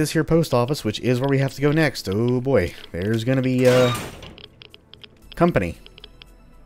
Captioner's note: doors open squeakily